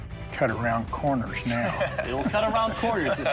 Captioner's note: laughter